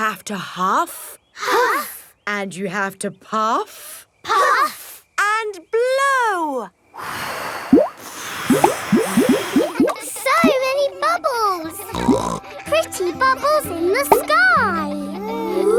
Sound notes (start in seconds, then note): 7.6 all blowing; 11.8 snorts